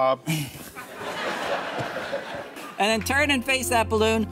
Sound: laughter

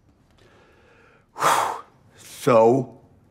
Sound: exhales

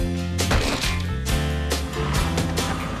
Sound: splat!; thud!

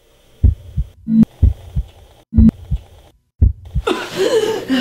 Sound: heart beating; coughing

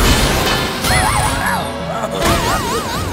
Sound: groaning

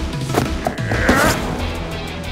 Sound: footsteps running

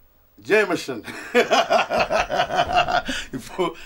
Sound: laughs

